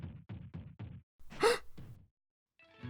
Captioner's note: the classic "I see a hot guy" gasp